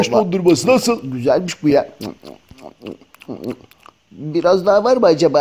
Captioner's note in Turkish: Yeme sesi